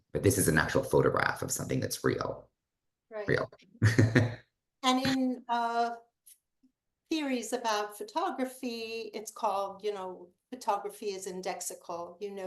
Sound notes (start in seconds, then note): 3.8 chuckles